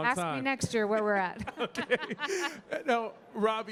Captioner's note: panelists laughing